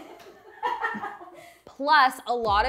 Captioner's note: laughter